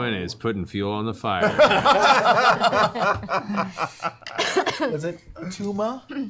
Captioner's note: groaning